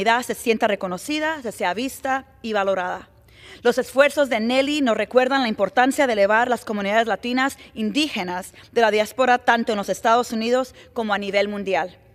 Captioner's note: speaking spanish